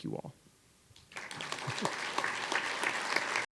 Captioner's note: applause